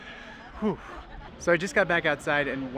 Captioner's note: exhales